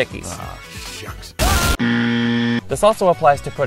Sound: explosion followed by EXTREMELY LOUD INCORRECT BUZZER

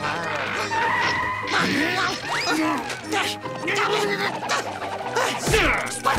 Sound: groaning

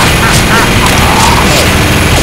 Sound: laugh; groans

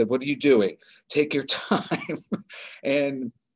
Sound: laughs

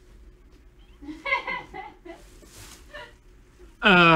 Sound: laughter

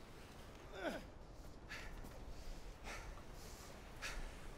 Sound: grunting

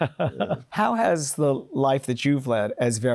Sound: laughs

